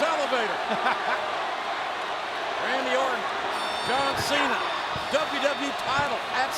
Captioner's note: laugh